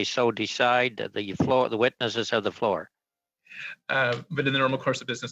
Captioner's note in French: voix de l'interprète